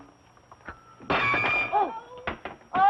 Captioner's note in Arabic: يتحطم